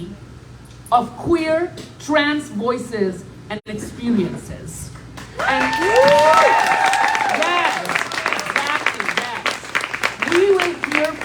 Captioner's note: applause